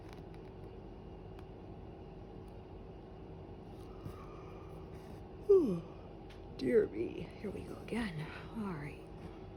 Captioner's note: yawns